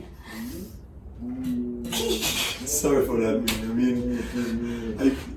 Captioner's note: laughing